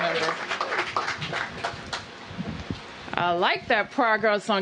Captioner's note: applause